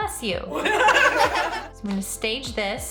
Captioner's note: laughter